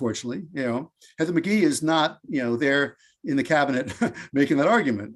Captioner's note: laughs